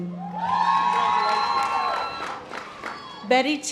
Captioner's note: audience applause